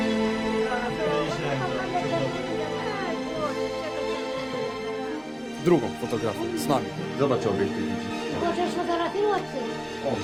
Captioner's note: distant chattering